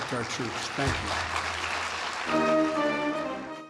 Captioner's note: applause